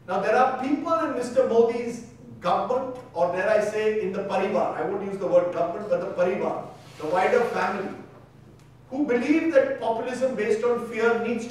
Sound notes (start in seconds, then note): 3.8 speaking in foreign language; 6.5 speaking in foreign language